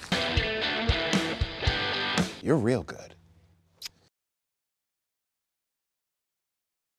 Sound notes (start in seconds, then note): 0.0 crunching; 0.0 rock music; 3.8 lips smack